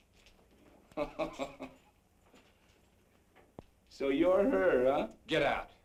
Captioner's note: laughs